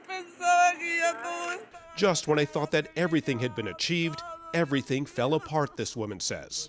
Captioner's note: crying